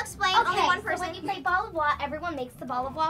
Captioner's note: chatter